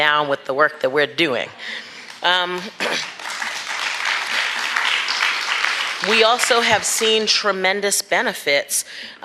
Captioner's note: applause